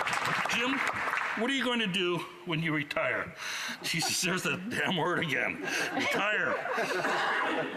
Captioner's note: applause